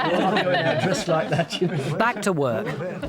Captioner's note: group laughs